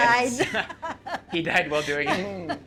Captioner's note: laughs